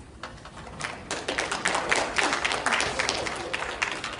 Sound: applause

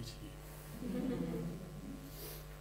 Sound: laughter

